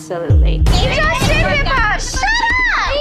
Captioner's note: arguing